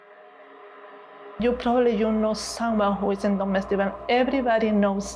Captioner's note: speaking foreign language